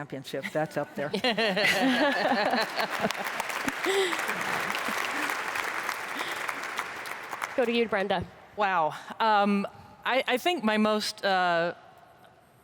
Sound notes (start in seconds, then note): 3.3 panelists laugh; 6.8 audience applauds